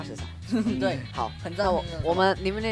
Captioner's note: confident